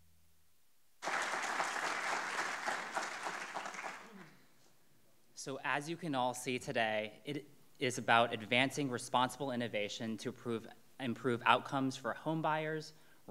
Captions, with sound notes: (audience clapping) - So as you can all see today, it is about advancing responsible innovation to improve outcomes for home buyers,